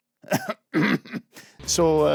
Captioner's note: coughs